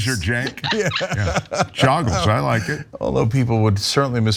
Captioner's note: laugh